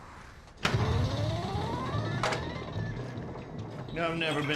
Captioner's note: pinball machine